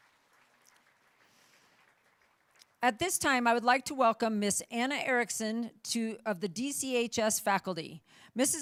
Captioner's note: applauding